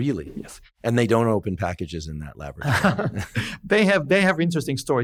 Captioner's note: laughs